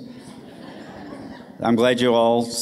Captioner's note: light laughter